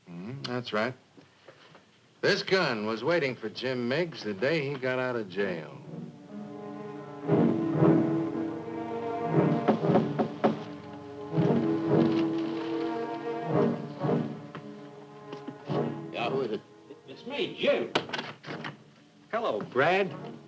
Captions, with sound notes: - Mm-hmm, that's right, this gun was waiting for Jim Miggs the day he go out of jail. (dramatic rhythmic orchestral music) (knocking on door) - Yeah, who is it? - It's me, Jim. Hello, Brad.